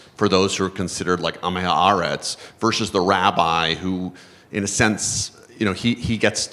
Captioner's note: hebrew